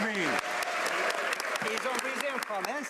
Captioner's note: some Applause